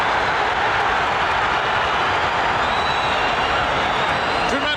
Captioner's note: audience cheering